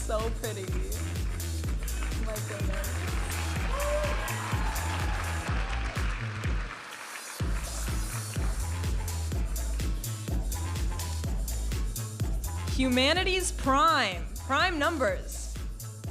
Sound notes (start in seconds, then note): 4.3 audience applauding and cheering; 8.0 vibrant music